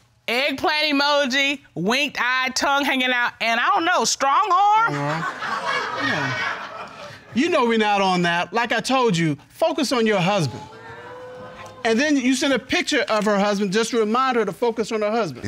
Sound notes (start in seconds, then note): 4.9 audience laughing; 5.1 mumbles